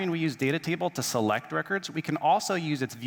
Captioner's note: none